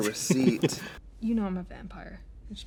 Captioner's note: Katya laughs